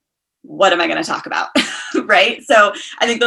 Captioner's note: chuckles